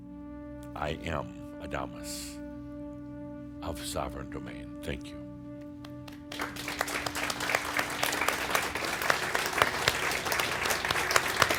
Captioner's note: audience applause